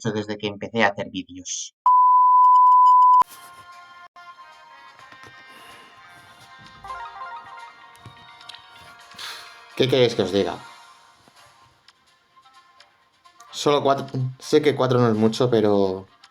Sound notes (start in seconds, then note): 5.5 sigh